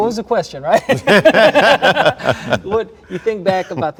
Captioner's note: everyone laughs